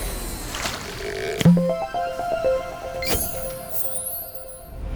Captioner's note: playful chime